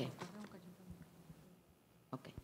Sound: speaking in a foreign language

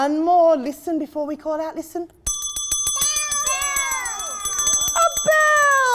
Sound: ding-a-ling

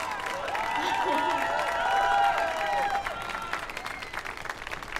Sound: audience cheers and applauds

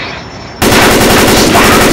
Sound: gun fire

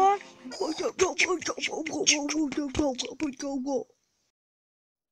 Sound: terrible beatboxing

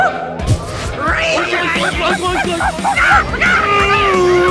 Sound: imitating animals

